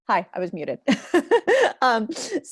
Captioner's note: laughs